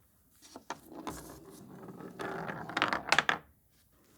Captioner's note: marble rolls